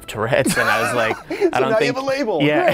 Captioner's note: both laugh